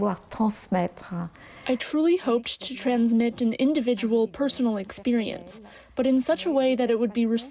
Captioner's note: speaking french